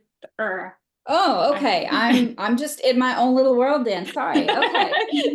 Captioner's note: laughter